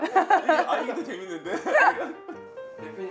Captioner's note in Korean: 웃음